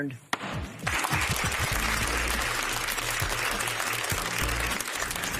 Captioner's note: applause